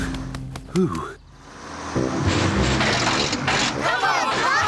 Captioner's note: bus splutters